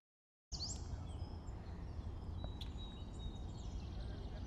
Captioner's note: birds chirping